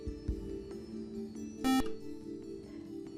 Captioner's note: buzzer